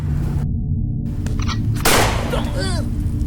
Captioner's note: gunshot